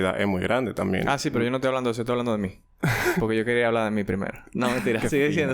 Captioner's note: laughs